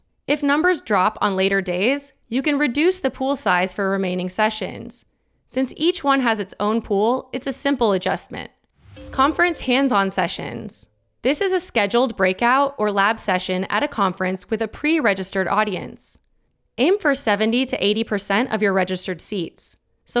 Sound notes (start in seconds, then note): 8.9 slide chiming; 15.8 graphic twinkling